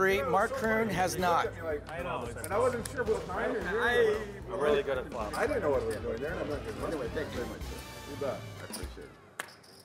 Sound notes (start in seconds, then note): 2.2 poker players talking amongst themselves